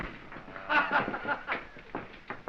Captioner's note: laughing